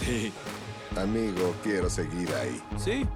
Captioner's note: laughs